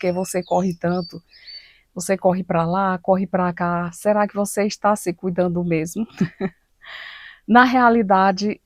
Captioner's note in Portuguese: risadas